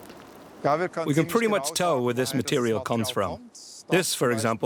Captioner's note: in German